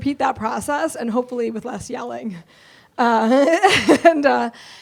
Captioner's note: laughs